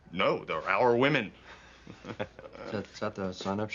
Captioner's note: chuckling